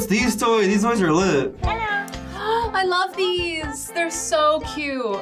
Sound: gasps

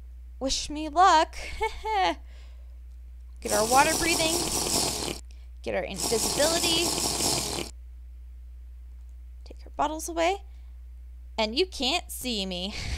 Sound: nervous laugh

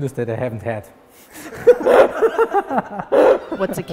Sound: laughing

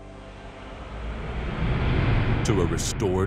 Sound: gentle music continues; transition whooshing

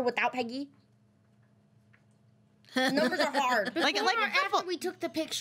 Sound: girls laughing

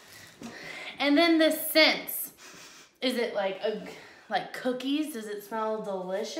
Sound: sniffs

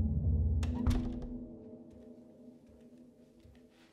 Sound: door closes

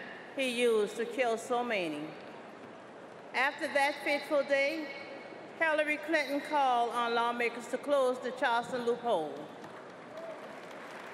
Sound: applause

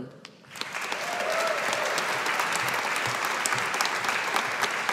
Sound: audience applauding

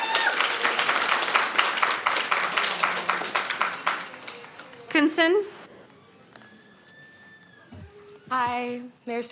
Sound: applauding

